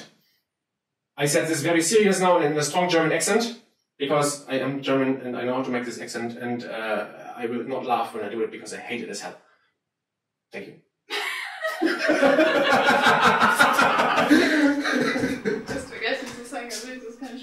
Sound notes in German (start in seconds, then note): 11.1 Frau lacht im Hintergrund; 14.8 Frau spricht Österreichisch